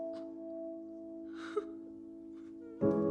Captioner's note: sobs